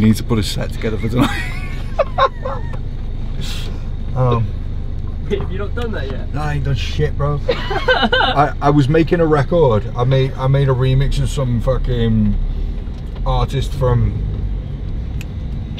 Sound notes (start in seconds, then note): 1.2 laughs; 7.4 laughs